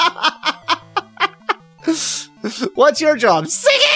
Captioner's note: laughter